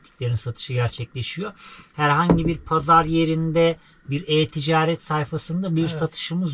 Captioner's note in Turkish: homurdanır